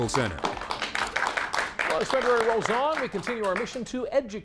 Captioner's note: applause